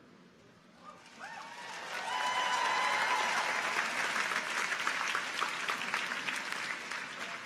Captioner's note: audience cheers; audience applauds